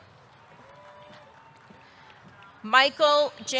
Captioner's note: audience cheering; audience clapping